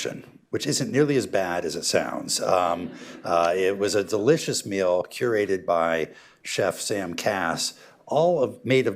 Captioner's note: laughter